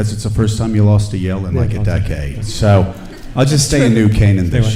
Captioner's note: laughing